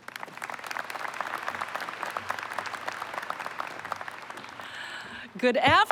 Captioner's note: applause